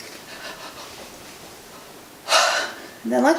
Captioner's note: breathes deeply